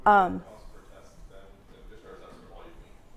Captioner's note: voice is muffled